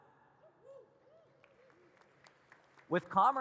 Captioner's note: audience cheers and claps